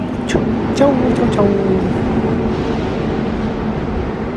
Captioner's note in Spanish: sonido del tren